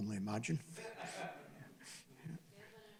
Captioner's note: laughing